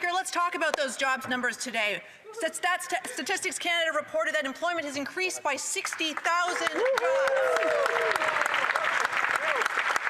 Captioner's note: applause